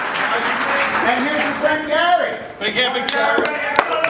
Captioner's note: crowd claps and cheers; voiceover; crowd claps and cheers